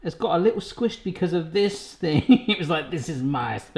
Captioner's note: laughs